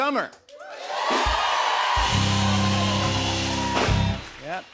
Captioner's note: cheers and applause